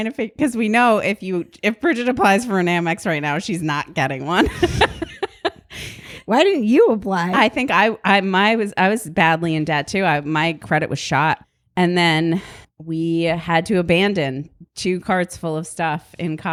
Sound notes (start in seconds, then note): 4.4 both laugh